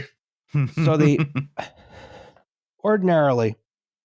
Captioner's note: chuckles